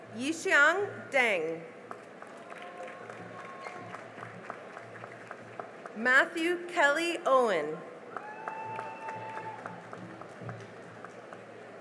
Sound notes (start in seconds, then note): 1.9 cheering and applause; 8.0 cheering and applause